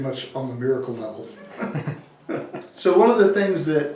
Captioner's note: laughs